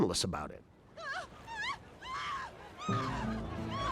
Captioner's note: woman shrieking, crowd clamoring